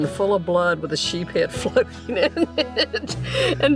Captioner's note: laughs